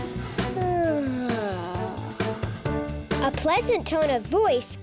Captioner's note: yawning